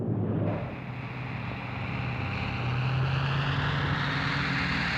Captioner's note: plane roaring